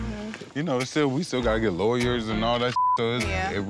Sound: beep

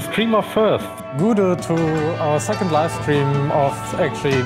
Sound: German: Hello

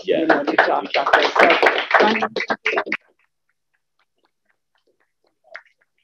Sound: applause

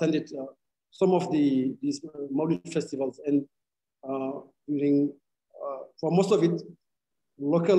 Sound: speaking arabic

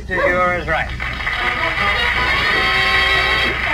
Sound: audience Applauds

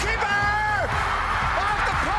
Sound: audience cheering

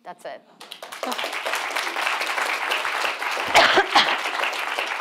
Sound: audience applauding

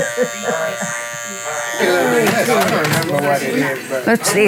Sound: laughs; clippers buzzing

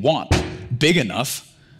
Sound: stamps foot

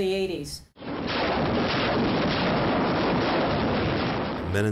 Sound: guns banging

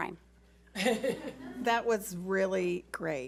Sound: board laughs

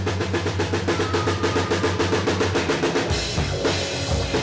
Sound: yells manically

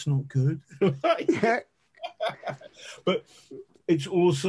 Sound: men laughing

